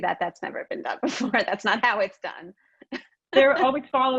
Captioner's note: laughs